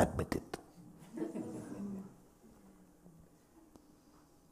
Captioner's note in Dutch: gelach